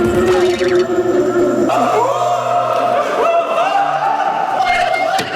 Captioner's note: Mereka saling berteriak dan menjerit